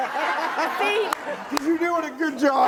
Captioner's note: laughter